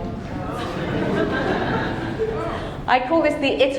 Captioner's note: audience chattering and laughing